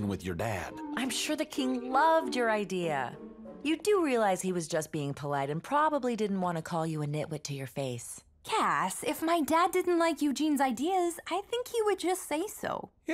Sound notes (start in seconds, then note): none